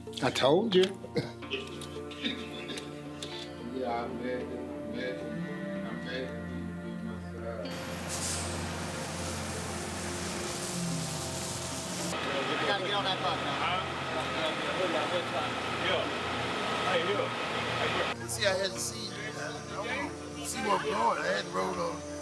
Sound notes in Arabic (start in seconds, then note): 3.8 موسيقى هادئة; 12.7 طنين الحافلة